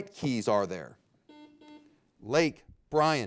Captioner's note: buzzer beeping